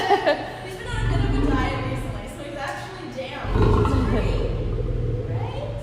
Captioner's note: lion growl